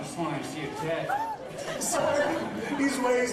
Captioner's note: tutti ridono